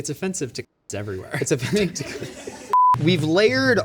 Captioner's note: laughs